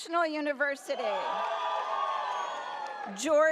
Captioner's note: audience cheers